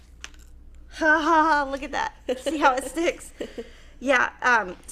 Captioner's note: laughing